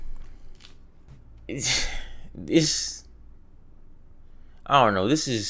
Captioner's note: scoffs